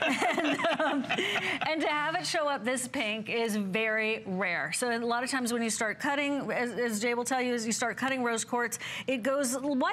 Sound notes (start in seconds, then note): 0.0 laughter